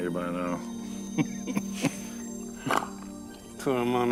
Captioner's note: chuckling